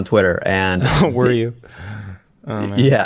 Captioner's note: laughs